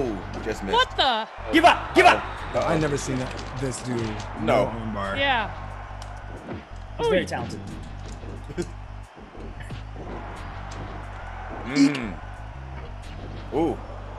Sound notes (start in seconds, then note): 8.4 laugh; 10.3 applause